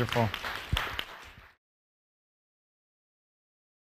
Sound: applause

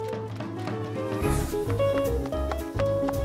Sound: whooshing

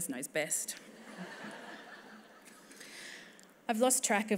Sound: laughter

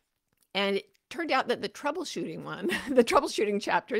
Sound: chuckles

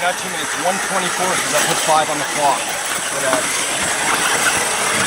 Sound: motor whining

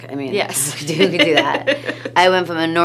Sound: laughs

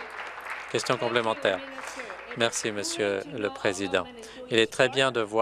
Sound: applause

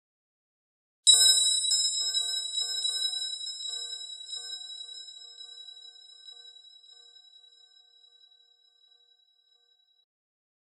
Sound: sound of Christmas bell

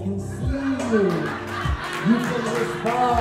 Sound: crowd laughs and claps

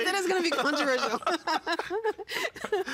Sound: laughing

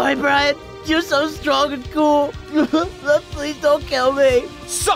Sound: sobs

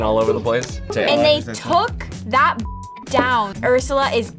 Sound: beep

